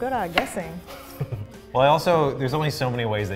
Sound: chuckles

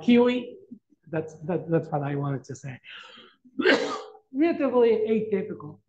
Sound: coughs

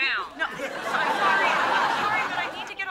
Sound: audience laughing

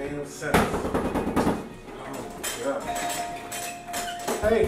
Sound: hard Door Knocking; knocking and Bell Ringing

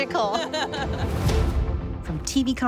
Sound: laughs

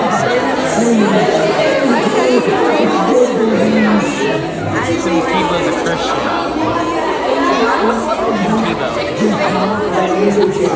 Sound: children laughing and talking over each other

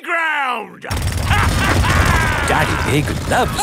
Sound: drilling and laughing

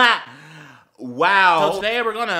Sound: inhale

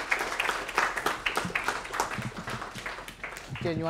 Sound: applause

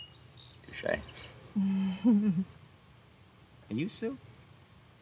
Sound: woman chuckles

